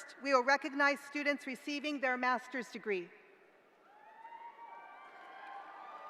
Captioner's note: cheering